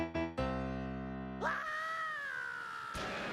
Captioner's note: screaming